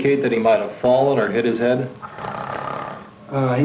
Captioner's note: snoring continues